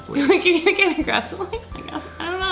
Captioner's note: laughing